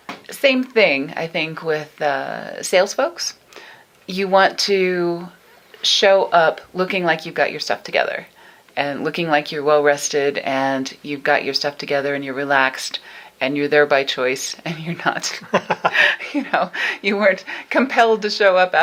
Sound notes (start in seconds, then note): 15.3 both laughing